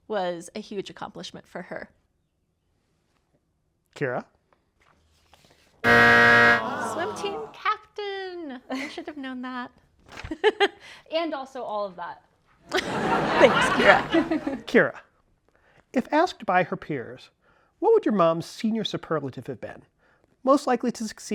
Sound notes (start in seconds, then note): 5.8 buzzer; 10.5 laughing; 12.8 audience laughing